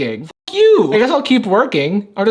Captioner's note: beep